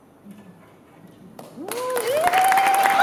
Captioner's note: applause